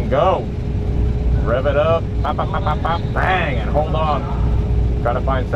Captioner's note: hums